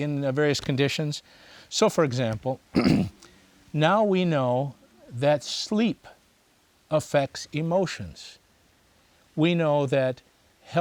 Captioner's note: clears throat